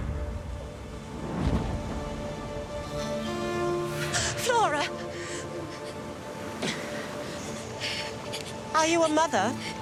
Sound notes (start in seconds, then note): 6.6 gasps; 7.6 crying